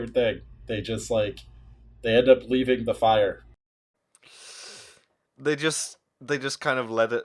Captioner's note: sharp intake of breath